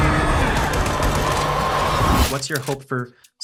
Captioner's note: helicopter blades swooshing; gun firing